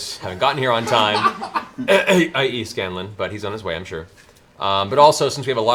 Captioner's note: clears throat